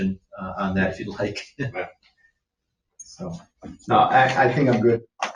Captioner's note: laughs